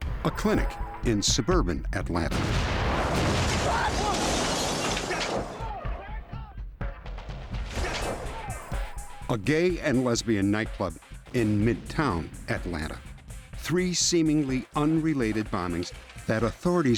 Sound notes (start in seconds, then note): 2.3 explosion